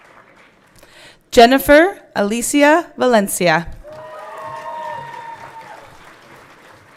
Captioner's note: everyone cheering